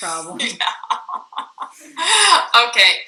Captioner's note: laughing; chuckles